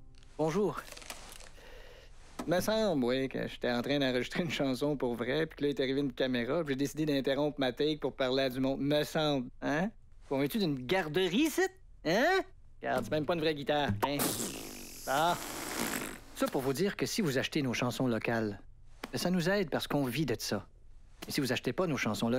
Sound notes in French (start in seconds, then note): 14.0 Pfffrrrr